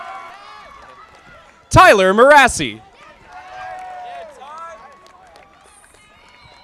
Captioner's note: audience applauding; audience applauding